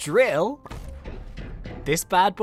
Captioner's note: drill thuds